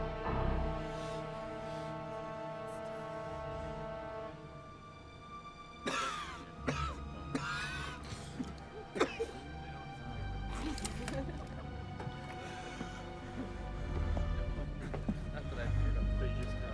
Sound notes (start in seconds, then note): 8.9 Bill coughs